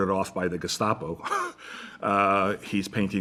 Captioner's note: chuckles